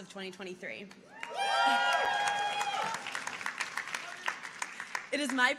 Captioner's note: audience applauding